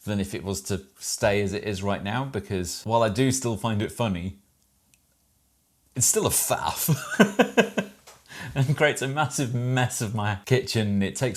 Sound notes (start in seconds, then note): 6.8 laughs